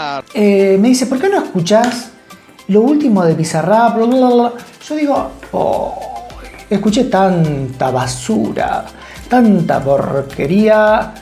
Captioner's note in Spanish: Ruidos con la lengua